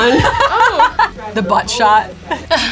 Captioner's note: laughs